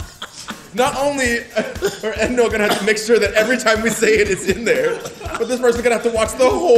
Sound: laugh

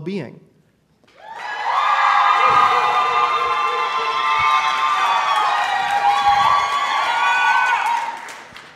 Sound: audience applauds and hoots

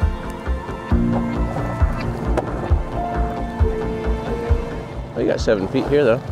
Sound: slow-tempo synth music; boat engine rumbling

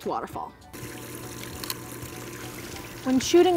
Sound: background music; water running

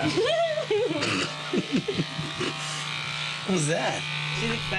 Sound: giggling

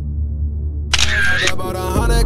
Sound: camera flicker

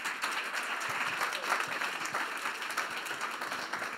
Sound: audience applauds

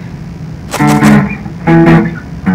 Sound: fast Walking

